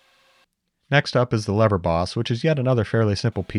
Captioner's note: drill whirring